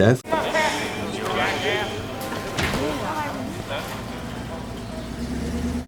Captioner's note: people chattering